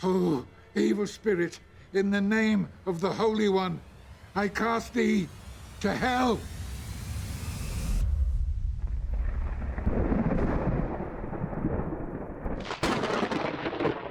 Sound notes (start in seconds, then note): 8.0 thunder rumbling